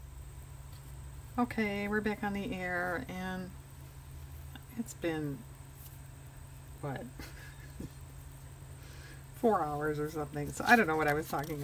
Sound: laughs

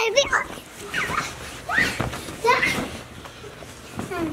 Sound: squeals

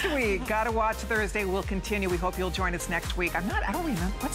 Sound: laughter

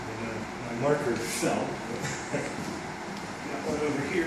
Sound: chuckling

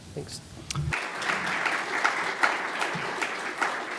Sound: applause

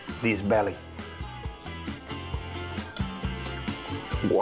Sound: eating

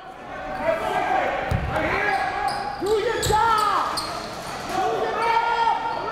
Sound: crowd talking; coaches yelling

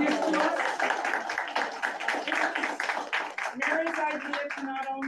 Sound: audience claps

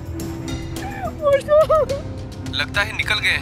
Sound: sobs

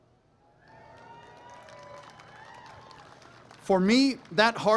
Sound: applause, cheering

